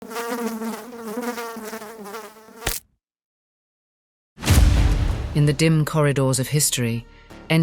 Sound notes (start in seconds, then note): 0.0 fly buzzing; 2.5 fly splatting; 4.4 dramatic music